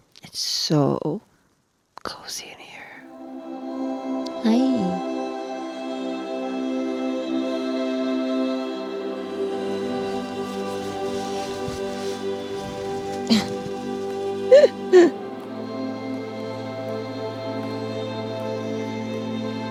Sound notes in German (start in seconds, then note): 14.4 kichert; 15.6 ruhige, ätherische Musik geht weiter